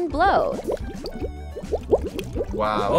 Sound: bubbles bubbling

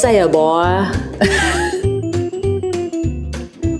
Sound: laughs; upbeat music

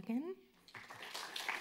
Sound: clapping

